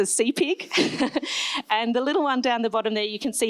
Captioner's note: laughs